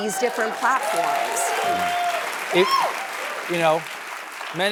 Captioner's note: applause